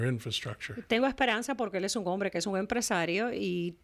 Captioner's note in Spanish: Hablando ingl\s